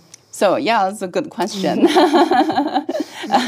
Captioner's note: laugh